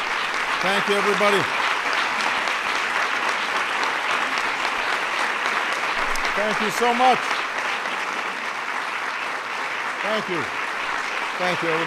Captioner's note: applause